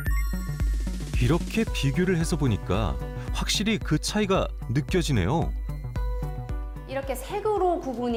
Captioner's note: voiceover